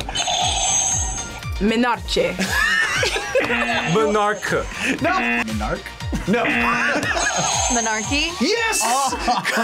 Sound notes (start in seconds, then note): 0.1 buzzer rings; 2.4 both laugh; 3.4 buzzer; 6.2 laughs; 7.1 buzzer rings; 8.8 laughs